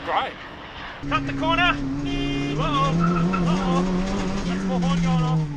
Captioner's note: beep